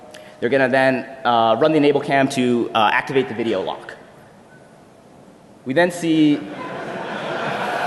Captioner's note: laughter